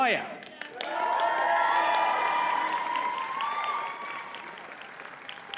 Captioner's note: audience cheers and applauds